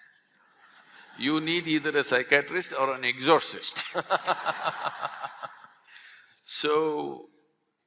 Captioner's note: laughter; laughter